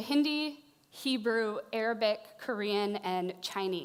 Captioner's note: speaking Japanese